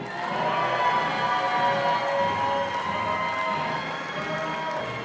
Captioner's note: audience applauding